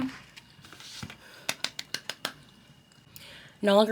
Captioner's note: palms clapping